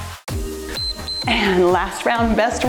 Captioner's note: timer beeps